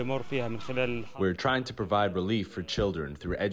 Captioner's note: through translator